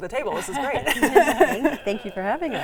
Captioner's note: all laughing